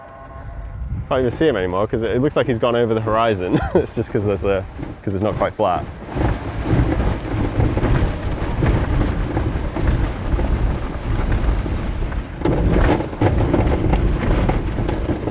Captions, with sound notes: I can't even see him anymore because it looks like he's gone over the horizon. It's just because it's not quite flat. (aircraft continues whirring)